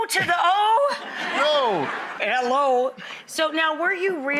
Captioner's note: audience laughs